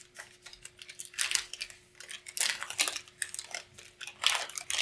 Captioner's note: package opening